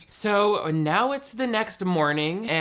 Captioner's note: none